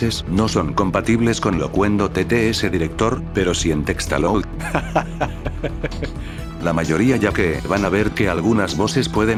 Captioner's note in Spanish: risa